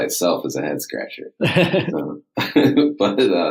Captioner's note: laughs